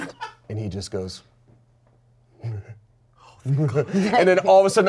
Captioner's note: chuckles